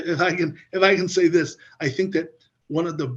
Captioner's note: laughs